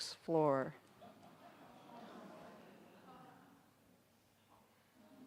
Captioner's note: audience gasping in awe